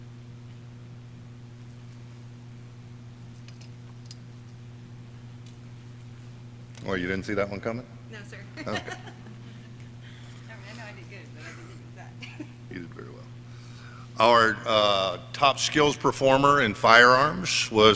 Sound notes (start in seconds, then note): 8.2 laughing; 13.3 quiet chatter